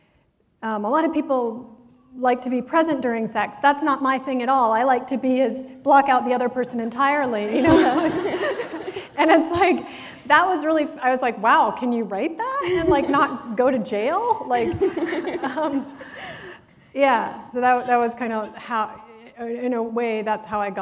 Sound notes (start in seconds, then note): 7.4 laughter